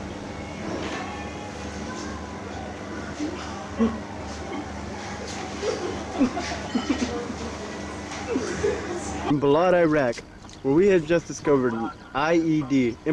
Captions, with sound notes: (soldiers laughing) Balad, Iraq, where we have just discovered an IED,